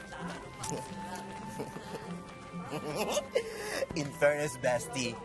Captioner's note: giggling playfully